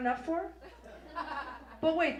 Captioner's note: audience laughs